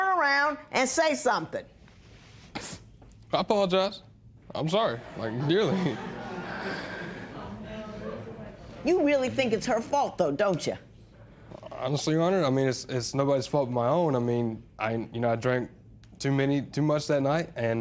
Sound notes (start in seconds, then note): 2.4 sniffles; 5.0 laughter; 6.4 sighs